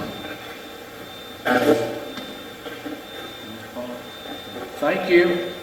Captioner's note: Steve's Box chatters